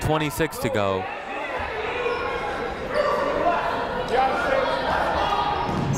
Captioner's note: people shouting in the crowd